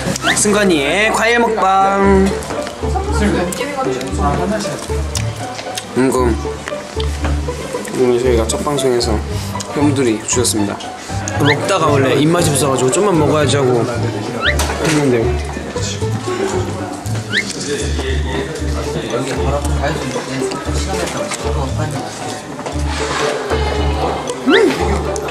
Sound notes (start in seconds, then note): 16.9 nom nom nom